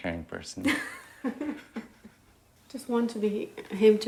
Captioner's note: both chuckling